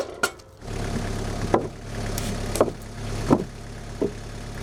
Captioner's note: engine revving